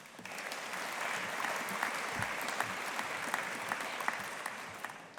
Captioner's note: audience applauding